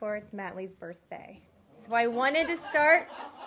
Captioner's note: laughter